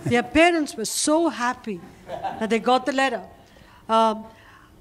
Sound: laughter

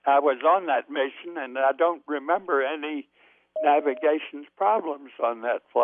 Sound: beeping sound

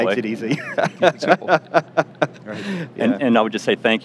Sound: laughs

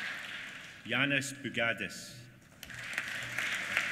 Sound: applause

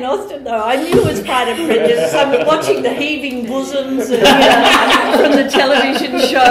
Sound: laughter

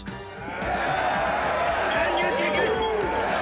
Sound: crowd cheers

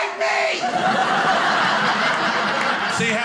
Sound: audience laughing

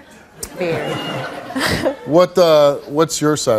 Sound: audience laughs

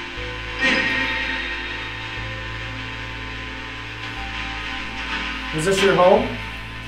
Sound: radio noise hissing continues

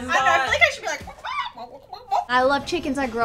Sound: makes chicken noises

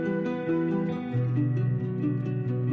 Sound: none

